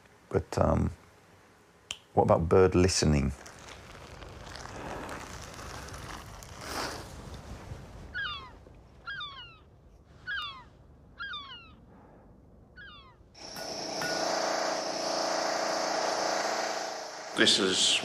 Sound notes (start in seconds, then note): 13.3 machine whirring